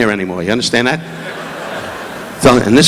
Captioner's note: audience laughing